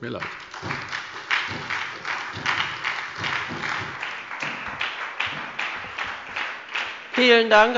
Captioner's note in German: Beifall bei der SPD